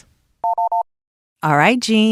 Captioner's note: phone rings